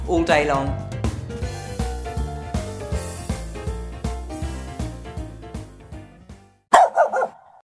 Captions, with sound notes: all day long. (upbeat jazz music) (barking)